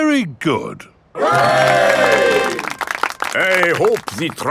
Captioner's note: clapping